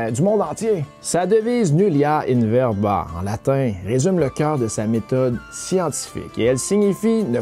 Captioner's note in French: Latin